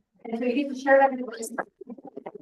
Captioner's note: audio interference